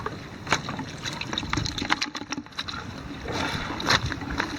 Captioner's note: water splashing